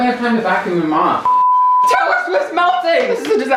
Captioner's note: beep